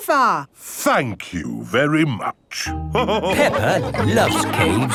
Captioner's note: all laughing